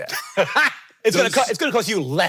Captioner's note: Hank laughing